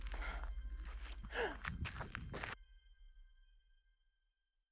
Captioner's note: gasps